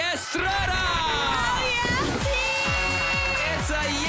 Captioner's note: upbeat music playing; crowd cheers, applauds